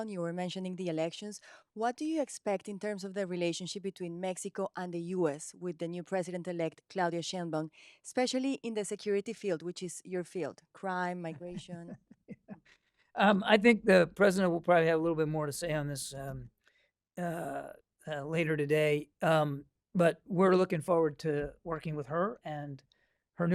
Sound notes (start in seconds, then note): 12.2 laughter